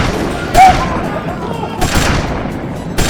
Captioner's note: gun shots